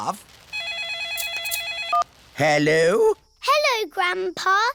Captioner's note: phone rings